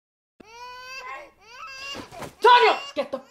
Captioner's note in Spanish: bebé llora